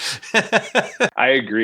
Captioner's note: laughing